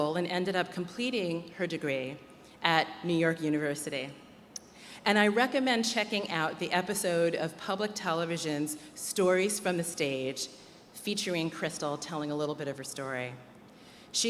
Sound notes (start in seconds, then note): none